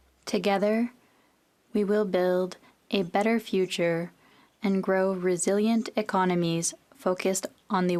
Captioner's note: speaking FRENCH